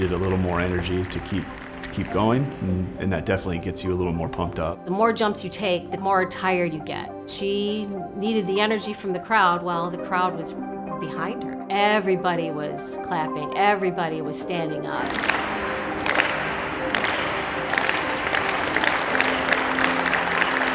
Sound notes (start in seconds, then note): 15.0 crowd clapping